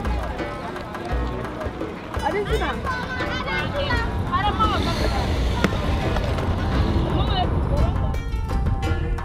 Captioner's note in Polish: dźwięki ulicy